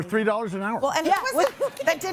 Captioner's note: laughs